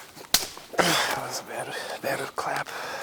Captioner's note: hands slap